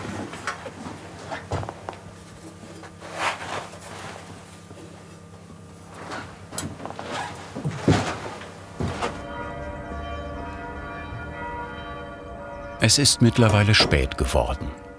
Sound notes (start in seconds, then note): 6.7 his footsteps recede; 8.8 church bells